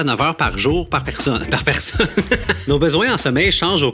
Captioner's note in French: rire